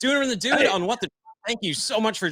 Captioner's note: muted